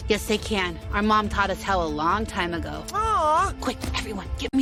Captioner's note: quietly